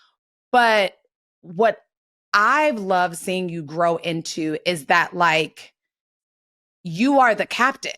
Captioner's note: none